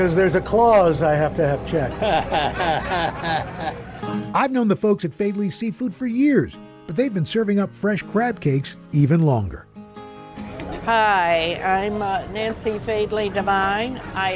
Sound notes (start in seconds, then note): 1.7 chuckles